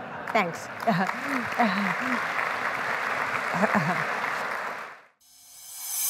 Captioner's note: laughter; applause; chuckling